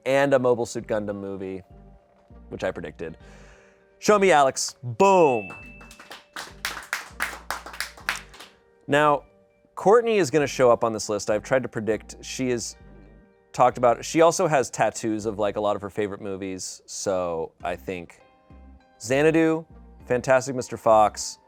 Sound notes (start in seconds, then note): 5.0 bell dings; 5.4 audience applauding